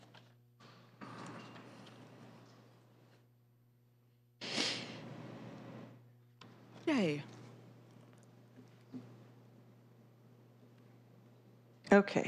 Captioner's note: silence